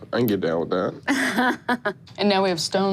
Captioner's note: laughs